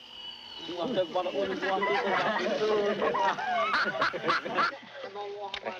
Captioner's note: chattering and commotion